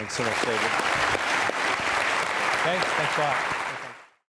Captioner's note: audience applaud